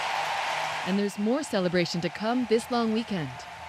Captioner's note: cheers and Applause